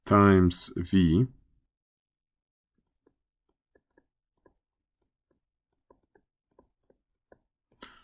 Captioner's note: writing